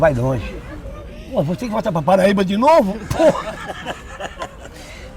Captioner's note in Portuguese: risadas